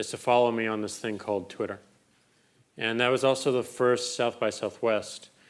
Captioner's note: none